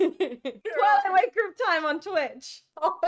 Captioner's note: laughter